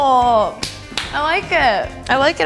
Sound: clapping

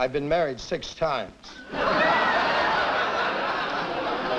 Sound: laughter

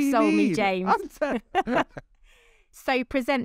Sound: both laughing

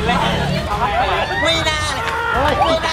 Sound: screams

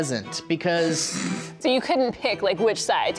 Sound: chortling

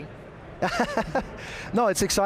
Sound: laughs

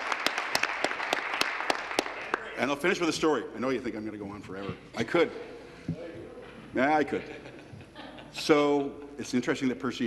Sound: applause

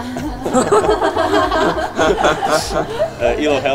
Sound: giggling

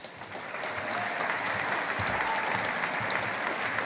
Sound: audience applauding

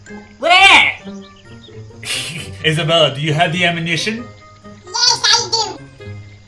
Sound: snickers

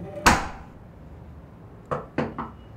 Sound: knocker bangs; Carlos knocks

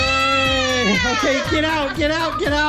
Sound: laughter

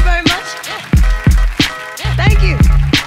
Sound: clapping

